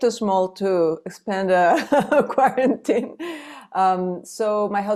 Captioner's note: laughs